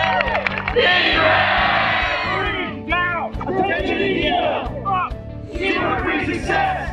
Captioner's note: crowd cheering and chanting